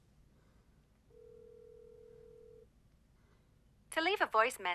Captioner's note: phone ringing